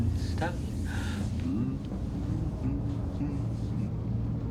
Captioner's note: humming